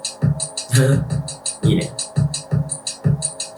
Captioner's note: laugh